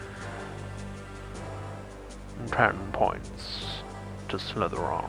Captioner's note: as snape